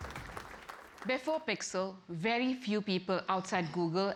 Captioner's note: applause